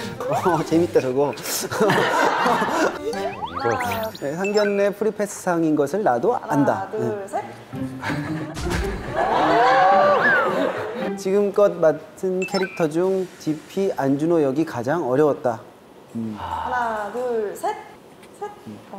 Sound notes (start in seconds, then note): 1.6 haha; 16.3 looking back / Sigh